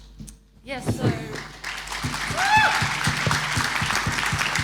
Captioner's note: audience applauding